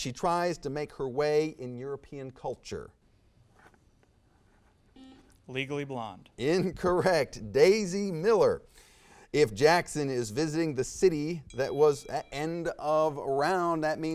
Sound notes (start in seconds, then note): 4.9 buzzer sounds; 11.2 bell dings